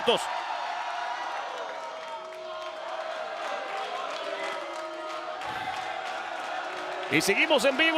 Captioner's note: applause